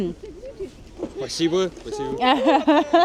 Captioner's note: speaking foreign language; laughing